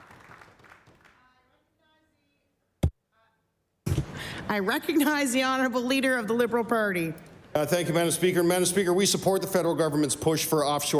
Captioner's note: applause